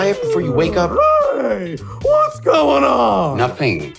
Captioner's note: yawning